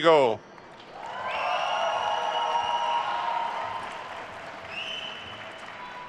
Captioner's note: attendees cheering and applauding